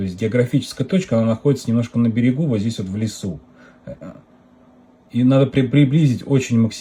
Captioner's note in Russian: откашливается